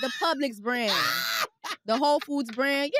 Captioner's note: laughs